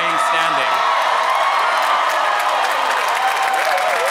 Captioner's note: applause